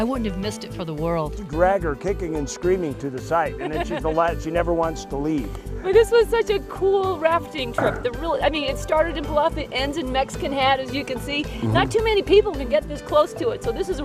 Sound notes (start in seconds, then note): 7.8 laughs